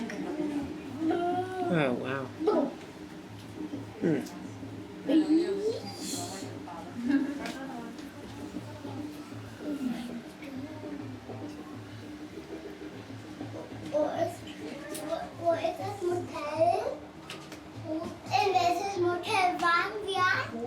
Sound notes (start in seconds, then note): 5.2 upbeat drum music; 14.0 child babbling in German